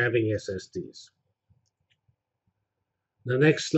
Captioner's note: pause